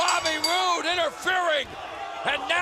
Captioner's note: bell ringing